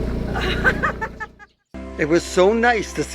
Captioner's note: ladies laughing